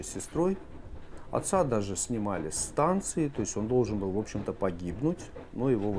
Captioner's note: train